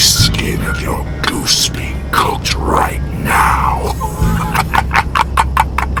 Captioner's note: cackling